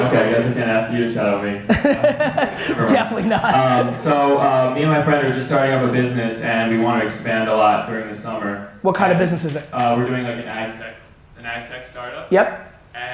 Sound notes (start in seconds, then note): 1.6 laughs